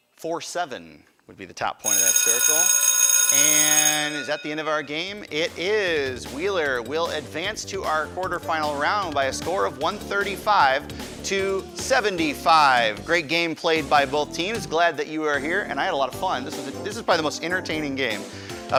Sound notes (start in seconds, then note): 1.8 ringing